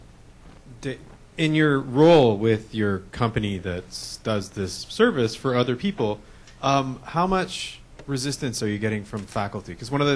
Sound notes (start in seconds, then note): 1.6 voiceover